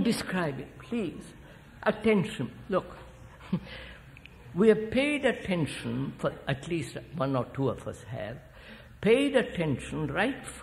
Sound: laughs

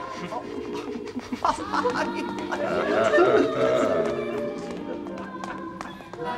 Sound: laughter

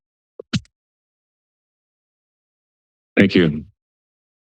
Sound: silence

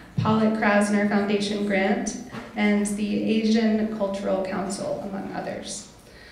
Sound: none

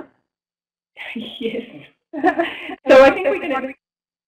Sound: laughing

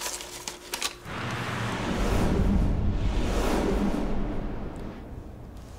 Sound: street noises

